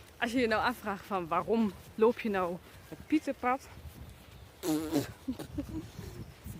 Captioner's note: spits out a fly